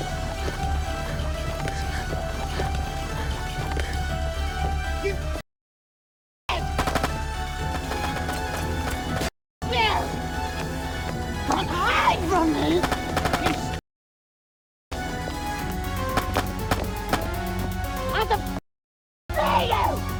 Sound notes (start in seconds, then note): 6.6 gun firing; 12.8 gun firing; 15.0 gentle upbeat music